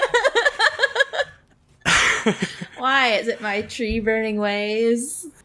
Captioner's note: laughs